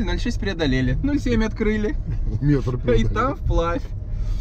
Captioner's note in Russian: смеются